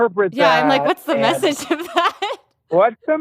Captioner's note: laughs